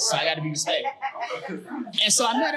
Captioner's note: audience laughing